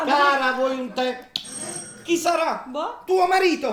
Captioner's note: doorbell